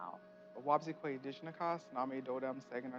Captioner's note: speaking Native language